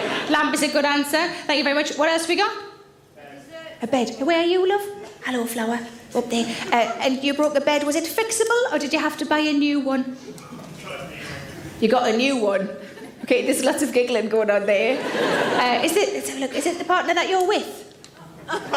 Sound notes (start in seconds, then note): 14.6 audience laughs